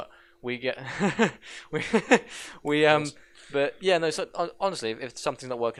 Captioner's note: soft laughter